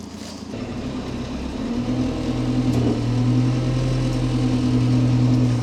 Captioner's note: vehicle humming